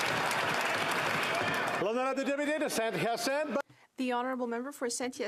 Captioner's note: applause